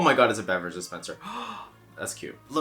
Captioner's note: gasp